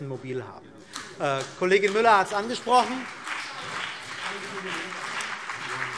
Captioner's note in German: Beifall CDU und BÜNDNIS 90/DIE GRÜNEN